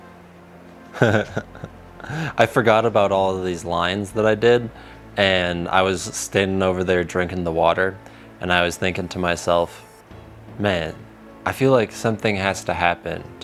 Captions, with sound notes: (laughs) I forgot about all of these lines that I did, and I was standing over there drinking the water, and I was thinking to myself, man, I feel like something has to happen